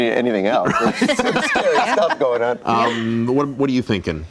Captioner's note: group laughter